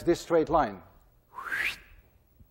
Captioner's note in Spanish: silbido